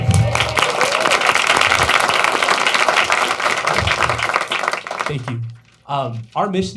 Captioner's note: applause